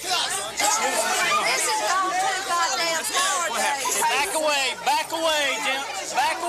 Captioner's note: crowd chatter